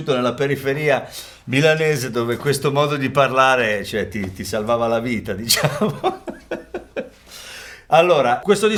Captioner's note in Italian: risate